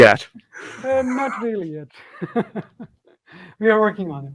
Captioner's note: laughs